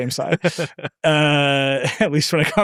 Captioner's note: laughing